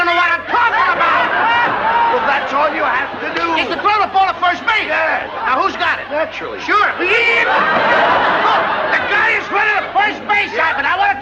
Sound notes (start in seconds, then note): 0.8 laughter